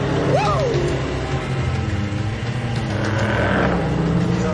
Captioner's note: engines rumbling; tires screech